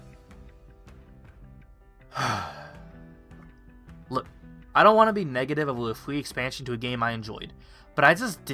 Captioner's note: sigh